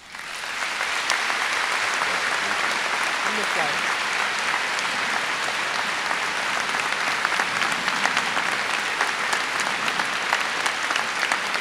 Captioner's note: applause